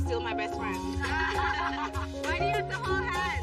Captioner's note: laughing